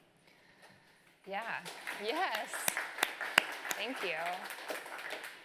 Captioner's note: applause